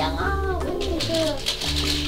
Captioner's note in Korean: 커튼 여는 소리